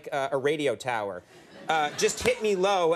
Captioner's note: audience laughing